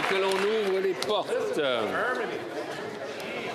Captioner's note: applause